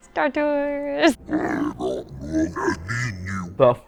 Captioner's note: alien language